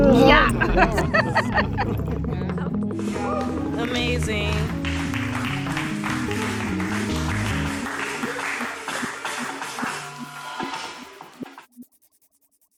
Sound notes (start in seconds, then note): 0.0 laughing; 6.6 clapping